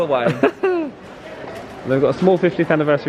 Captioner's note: laughing